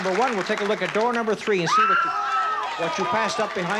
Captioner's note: screams